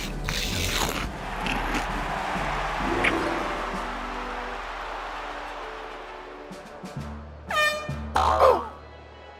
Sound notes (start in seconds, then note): 0.0 crunching; 7.4 air horn sounds; 8.1 groans